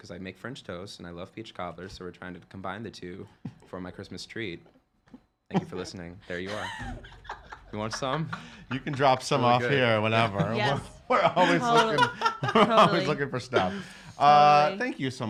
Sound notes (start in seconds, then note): 7.2 laughing; 11.1 chuckles